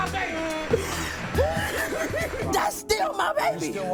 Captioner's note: sobbing